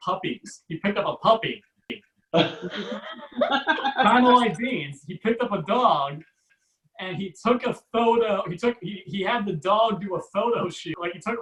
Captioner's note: audience Laughs